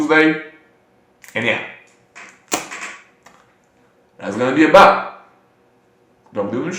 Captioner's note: aggressive placing card on the table noises